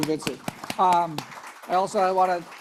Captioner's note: all applauding